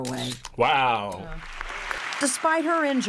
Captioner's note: camera clicking